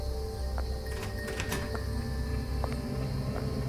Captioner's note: door closing; suspenseful music